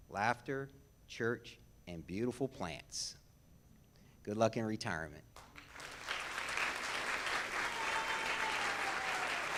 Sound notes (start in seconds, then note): 5.3 audience claps